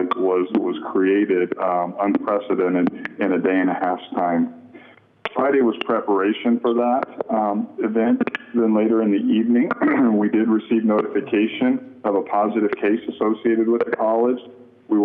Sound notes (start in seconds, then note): 9.6 clearing throat